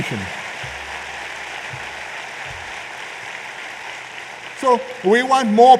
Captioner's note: applause